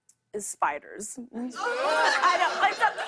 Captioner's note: audience ohhs